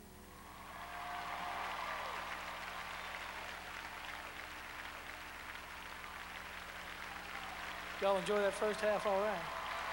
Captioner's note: crowd cheering